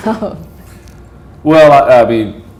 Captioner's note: chuckle